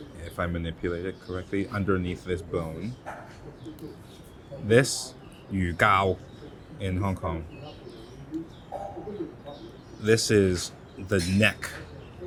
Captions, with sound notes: if I manipulate it correctly, underneath this bone. This [speaks in foreign language] in Hong Kong. [patrons chatter] This is the neck.